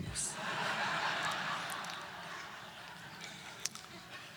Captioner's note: audience laughter